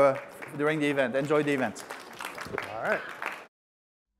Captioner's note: crowd clapping